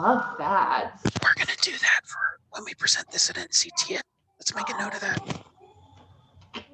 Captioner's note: whispering